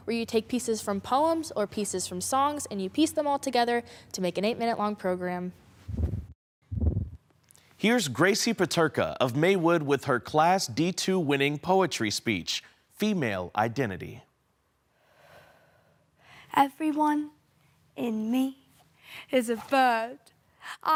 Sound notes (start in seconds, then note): 5.9 whoosh; 14.3 silence